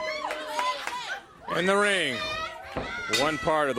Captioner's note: crowd cheering; crowd chatter